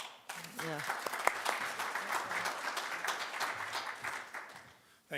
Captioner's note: audience applauding